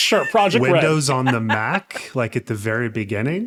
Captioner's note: laughing